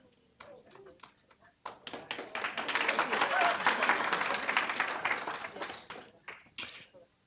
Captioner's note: applause